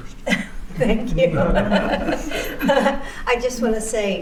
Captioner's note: laughter